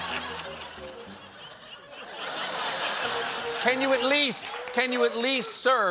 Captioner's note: laughter